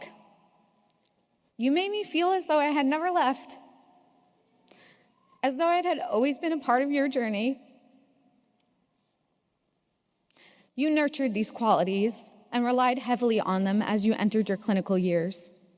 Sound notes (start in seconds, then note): none